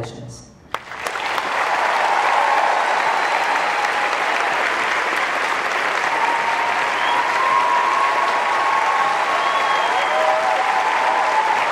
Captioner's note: cheers and applause